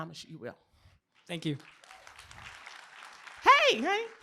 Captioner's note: applause